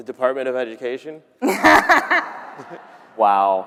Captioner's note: everyone laughing